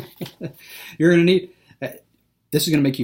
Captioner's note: laughing